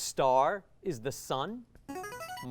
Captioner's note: ringing